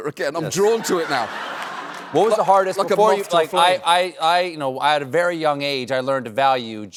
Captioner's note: laughter